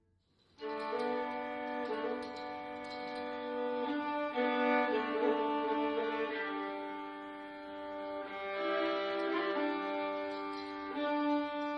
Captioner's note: sound of chain rattling in the pulley